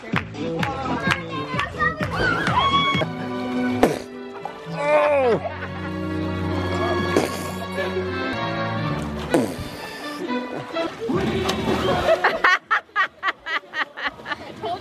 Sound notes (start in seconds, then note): 0.5 kids clapping; 1.6 kids cheering; 5.9 punching sound effect; 11.9 female laughing